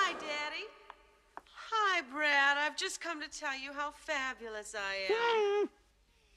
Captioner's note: Приглушенный крик